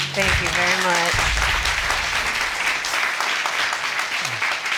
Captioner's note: audience applauding